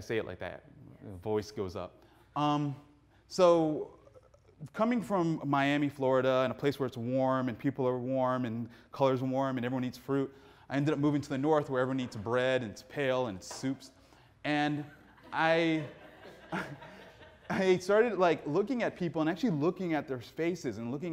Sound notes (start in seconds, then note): 14.7 audience laughing; 14.8 laughs